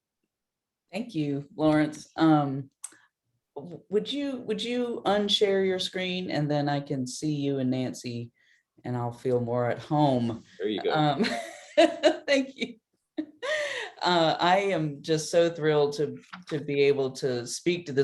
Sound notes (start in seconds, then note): 10.8 laughs